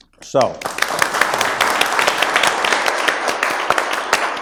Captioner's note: audience applauds